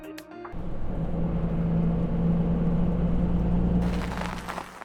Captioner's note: bus sounds